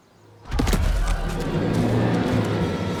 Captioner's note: loud footsteps